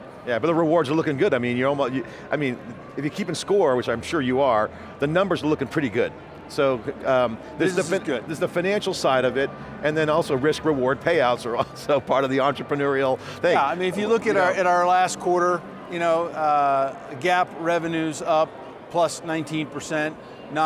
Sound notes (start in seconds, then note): 13.3 laughs